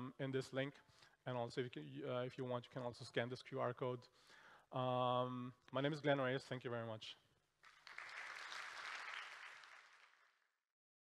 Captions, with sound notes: in this link. And also, if you want, you can also scan this QR code. My name is Glenn Reyes, thank you very much. [applause]